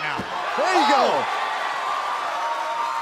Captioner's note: cheers & applause